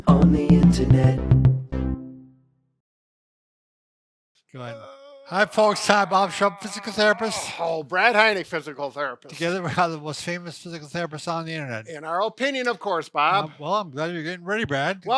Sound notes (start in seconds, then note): 4.6 groaning